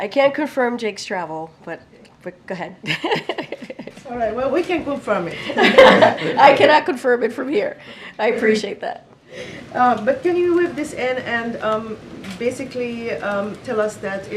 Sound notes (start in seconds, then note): 2.8 laughs; 5.4 laughter